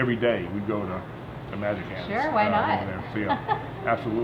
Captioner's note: chuckles